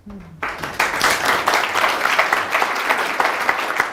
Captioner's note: audience applauds